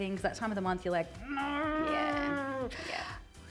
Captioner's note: grunts